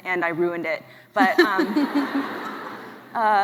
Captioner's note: laughs